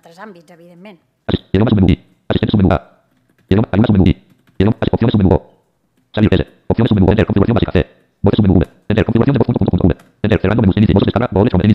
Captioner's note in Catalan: veu robòtica que llegeix molt ràpid la pantalla en castellà